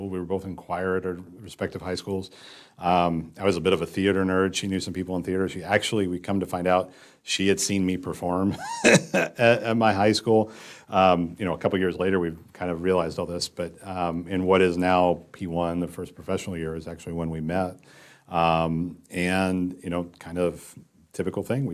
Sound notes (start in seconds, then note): 8.6 laugh